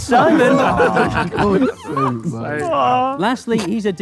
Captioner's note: group laughs